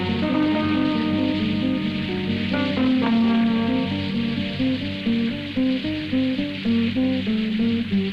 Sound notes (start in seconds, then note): 2.4 rain whooshing; 2.4 tense music continues